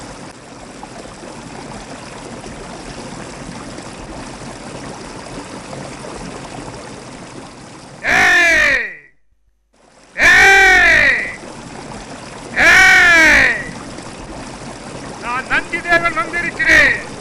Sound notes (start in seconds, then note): 7.8 Nandhi Deva Rishi shouting